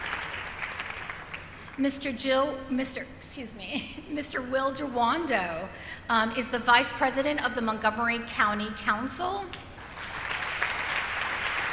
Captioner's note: applause